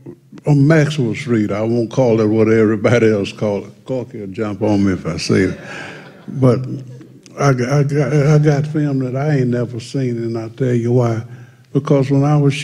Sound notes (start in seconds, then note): 5.3 laughter